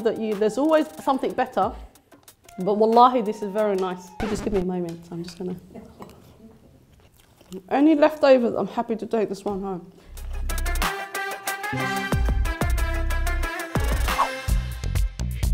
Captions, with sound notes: that you, there's always something better but (speaking foreign language), this is very nice. You just gimme a moment. I'm just gonna. Any leftovers, I'm happy to take this one home. (upbeat music)